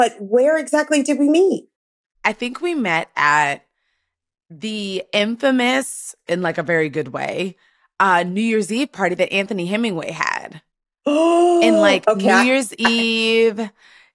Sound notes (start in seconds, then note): 11.7 gasps